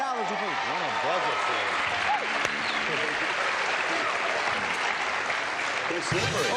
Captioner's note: applause